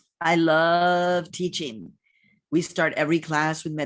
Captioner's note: none